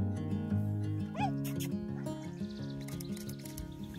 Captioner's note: kiss/lip smacking sounds sounds